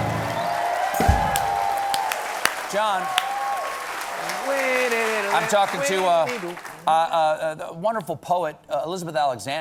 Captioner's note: applause